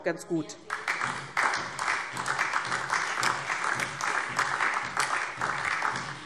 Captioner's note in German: Beifall DIE LINKE und vereinzelt SPD